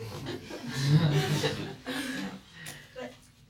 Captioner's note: students laugh